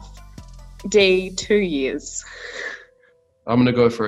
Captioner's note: laughing